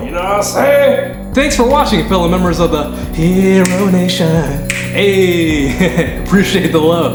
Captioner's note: laughter